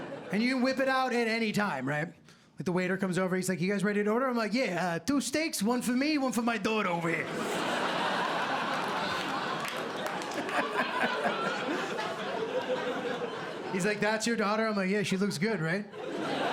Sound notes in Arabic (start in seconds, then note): 4.6 بلهجة بروكلين; 7.2 ضحك; 10.2 ضحكة مكتومة